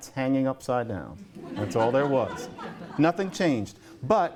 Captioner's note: laughter